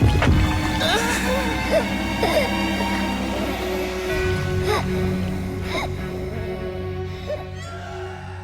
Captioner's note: gasps; screaming